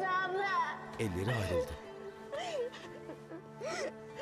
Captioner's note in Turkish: Ağlama sesi